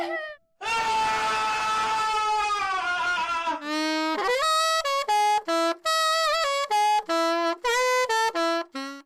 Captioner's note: screaming!